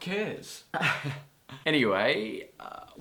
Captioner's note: laughs